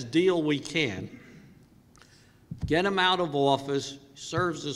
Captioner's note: cough